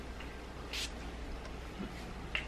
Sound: sprays

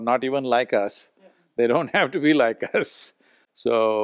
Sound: laughs

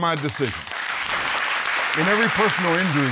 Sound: audience applauding

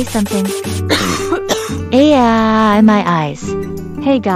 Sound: coughing

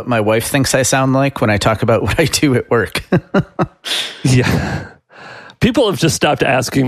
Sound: laughs

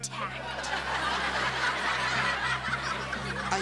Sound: audience laughs

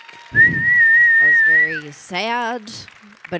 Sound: audience applauding; Ilana whistling

